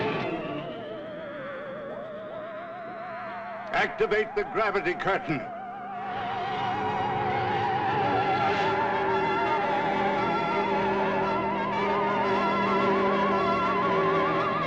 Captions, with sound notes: - Activate the gravity curtain. (strange modulating)